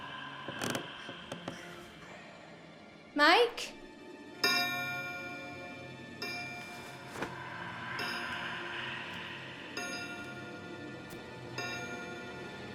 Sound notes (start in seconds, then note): 0.1 creaking; 7.2 clock chiming